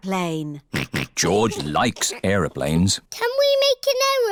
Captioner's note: snorts